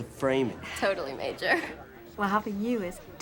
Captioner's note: chuckling